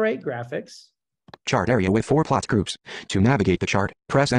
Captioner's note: voiceover